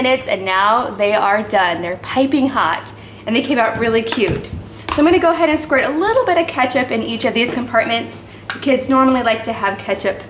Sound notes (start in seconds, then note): none